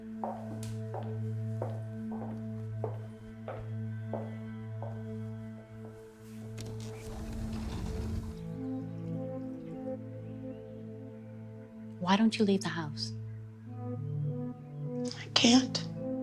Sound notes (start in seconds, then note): 0.1 shoes clicking; 6.6 sliding door rattling